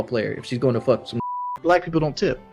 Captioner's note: beep